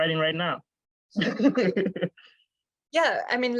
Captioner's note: laughs